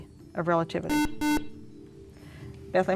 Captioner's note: beeping